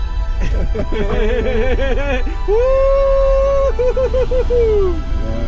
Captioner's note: laughing